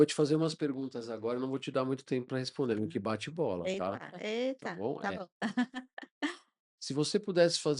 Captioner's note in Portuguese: risadas